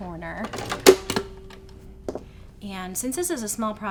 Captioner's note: machine clicks